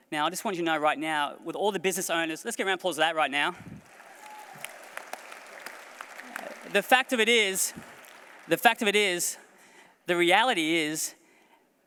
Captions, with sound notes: Now, I just want you to know right now, with all the business owners... Let's get a round of applause for that, right now. (APPLAUSE) The fact of it is... The fact of it is, the reality is...